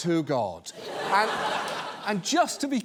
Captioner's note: studio audience laughs